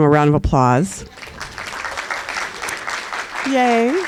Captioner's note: applause